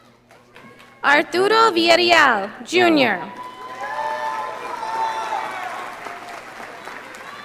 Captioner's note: audience applauding